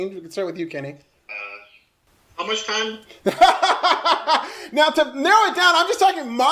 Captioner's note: laughter